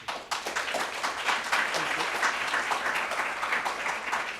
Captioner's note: applause